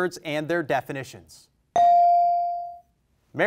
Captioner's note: bell rings